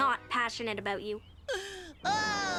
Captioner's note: Otto gasps